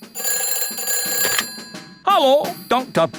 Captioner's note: ringing